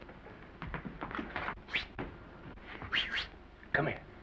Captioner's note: Maine whistles